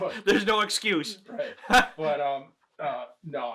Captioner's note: chuckles